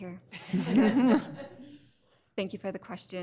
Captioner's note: all laughing